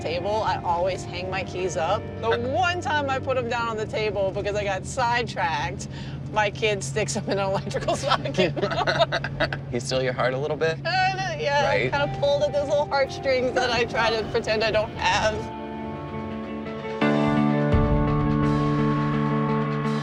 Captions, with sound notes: I always hang my keys up. The one time I put them down on the table because I got sidetracked, my kid sticks them in an electrical socket. [laughs] He steal your heart a little bit? Yeah, he kind of pulled up those little heartstrings that I try to pretend I don't have. [thoughtful music]